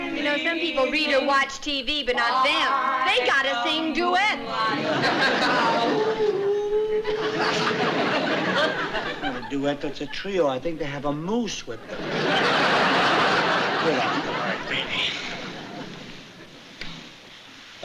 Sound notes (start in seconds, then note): 5.8 howling